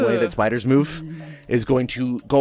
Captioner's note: vague noise of disgust